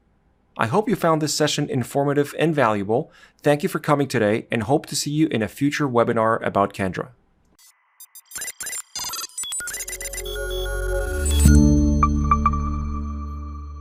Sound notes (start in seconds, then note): 7.8 robotic beeping; 8.0 bright music